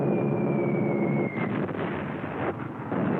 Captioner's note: bombs whistling; explosion